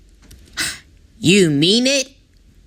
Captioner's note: mater gasp